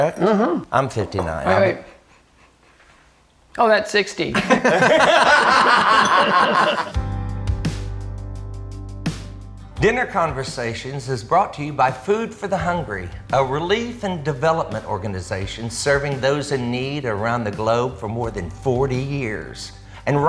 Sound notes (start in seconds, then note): 4.3 all laughing; 7.4 soft, uplifting music